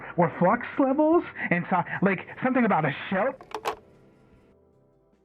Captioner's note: click; pause